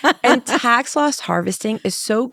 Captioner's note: laughs